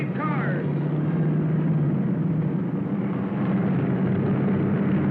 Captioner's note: cars revving